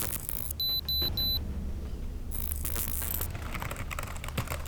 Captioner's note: detector beeps